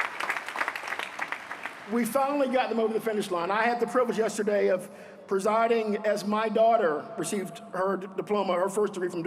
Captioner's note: applause